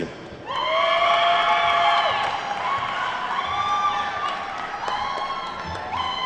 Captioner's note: attendees whooping and clapping